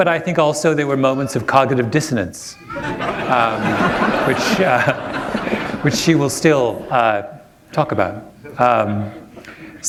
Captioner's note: laughter